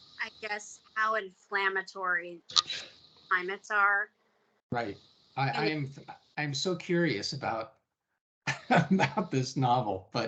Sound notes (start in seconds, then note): 8.4 chuckling